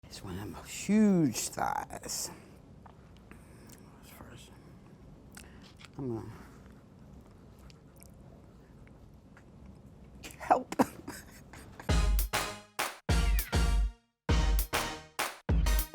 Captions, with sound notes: - That's one of those huge thighs. I'm a Help. (laughing) (energetic cheerful music)